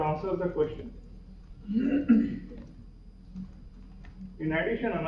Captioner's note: pause